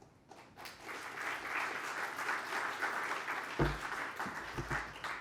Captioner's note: applause